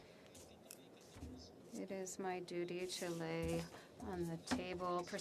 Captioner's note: speaking French